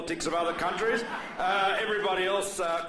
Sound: laughter

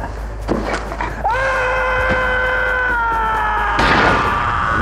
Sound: screaming

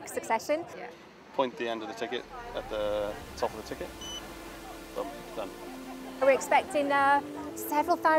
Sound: scanner beep

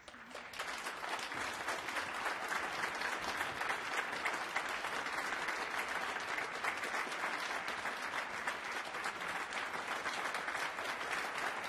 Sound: applause

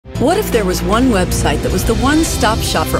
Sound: voiceover

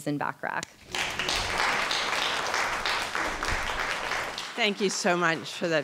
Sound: audience clapping

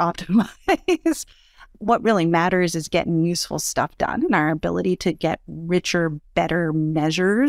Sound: laugh

